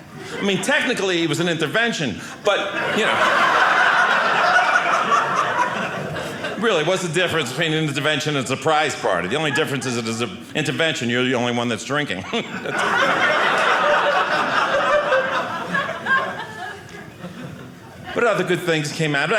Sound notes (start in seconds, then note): 2.4 audience laughing; 12.1 audience laughing